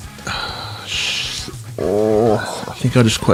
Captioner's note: groans